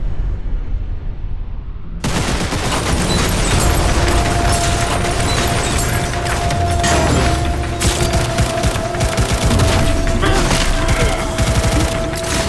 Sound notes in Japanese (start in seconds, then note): 1.9 銃声